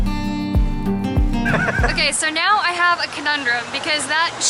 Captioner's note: laughter